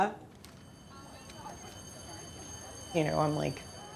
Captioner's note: bell ringing